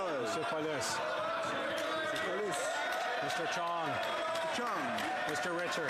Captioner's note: crowd noise